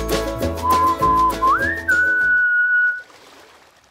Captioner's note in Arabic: صوت صفير